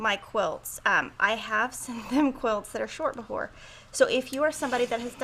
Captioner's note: chuckles